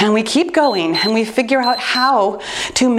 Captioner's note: timer beeps